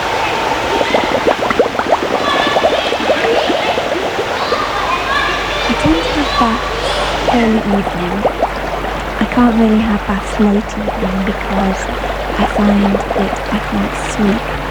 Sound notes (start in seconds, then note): 0.2 bubbling; 3.6 yelling, running water continues